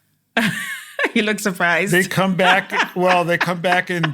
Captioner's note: laugh